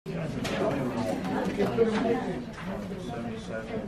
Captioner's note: crowd chatter